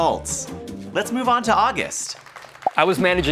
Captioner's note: crowd clapping